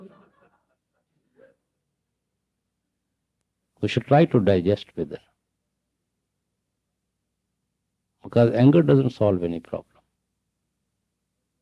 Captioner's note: laughter